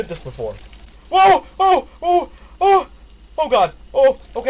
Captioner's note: host screams